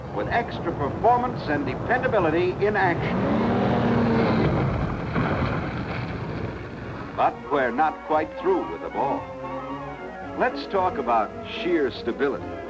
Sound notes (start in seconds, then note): 3.6 car engine revving